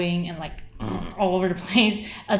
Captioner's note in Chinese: 恐龍叫聲